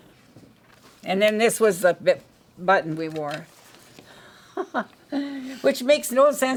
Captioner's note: laughs